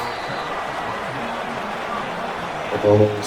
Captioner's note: crowd Noises